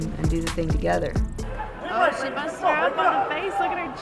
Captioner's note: coaches screaming in the background